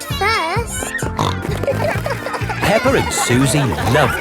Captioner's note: snorting